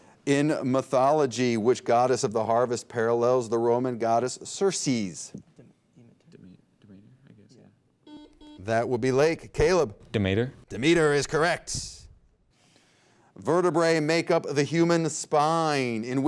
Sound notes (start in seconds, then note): 5.9 team whispering; 8.0 buzzer beep